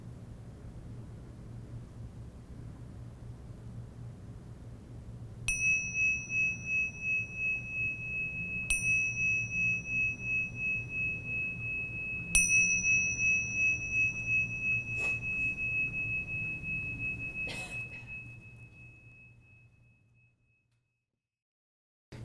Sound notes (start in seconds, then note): 5.5 bell dinging